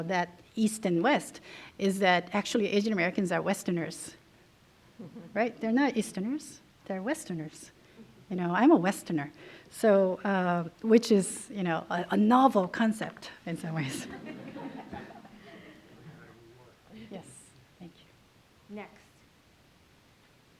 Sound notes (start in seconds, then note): 13.8 laughter